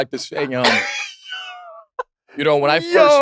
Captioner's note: laugh